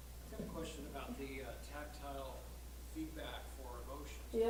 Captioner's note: voiceover